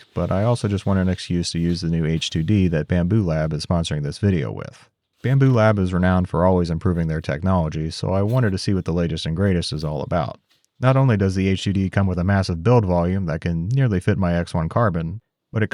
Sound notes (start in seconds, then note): none